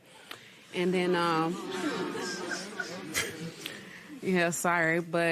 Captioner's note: spectators murmur